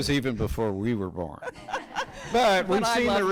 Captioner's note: people laughing